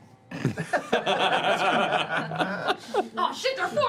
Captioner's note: laughter